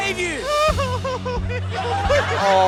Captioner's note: sobs in falsetto voice